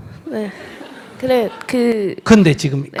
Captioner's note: audience laughter